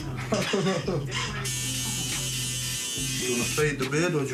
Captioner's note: laughing; buzzing